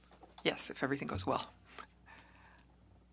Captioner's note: speaking in French